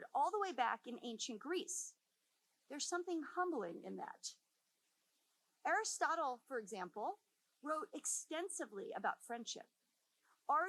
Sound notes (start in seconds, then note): none